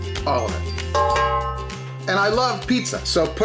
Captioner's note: metal clanging